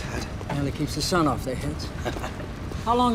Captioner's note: chuckling